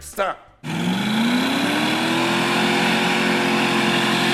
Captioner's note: engine revs